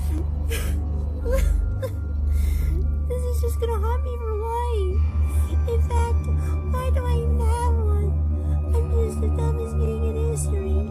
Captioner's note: sobbing